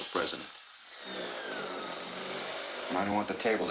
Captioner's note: drilling